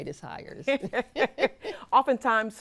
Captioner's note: laugh